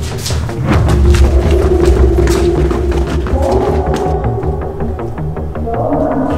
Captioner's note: suspense music; ghost sound